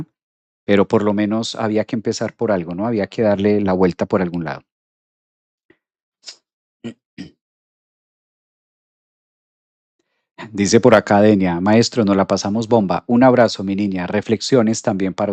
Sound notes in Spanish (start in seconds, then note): 7.2 carraspeo